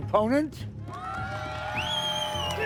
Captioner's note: crowd cheering